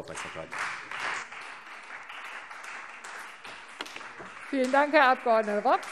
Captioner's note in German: Beifall Freie Demokraten